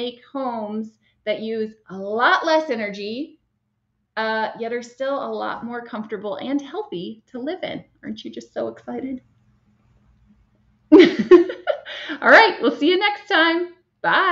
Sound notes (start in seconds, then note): 11.0 laughs